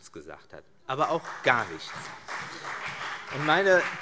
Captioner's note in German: Beifall CDU